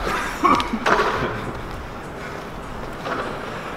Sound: coughing

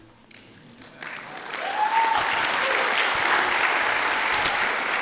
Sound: audience clapping

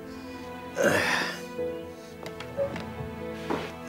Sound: moans

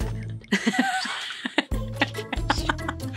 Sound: laughing

